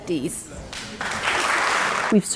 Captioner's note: applause